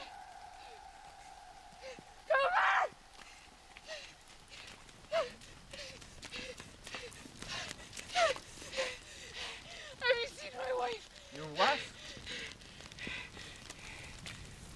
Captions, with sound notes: Cooper! (Lover panting) Have you seen my wife? - Your wife?